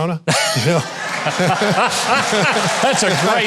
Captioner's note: both laughing